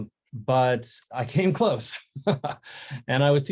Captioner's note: chuckles